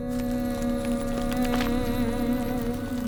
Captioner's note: Jae hums